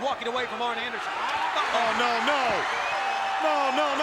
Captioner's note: crowd clamoring